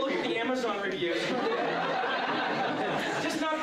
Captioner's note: laughter